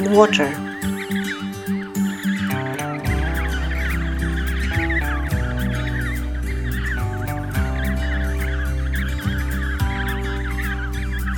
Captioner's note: background penguin noise and music